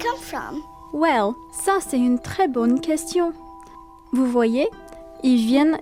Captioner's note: French